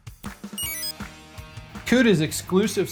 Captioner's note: exit chime